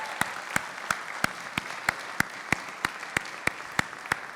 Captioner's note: applause